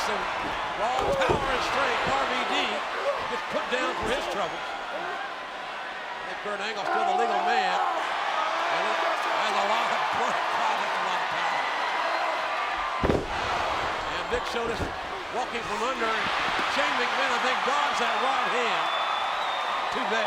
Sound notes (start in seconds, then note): 12.8 body slamming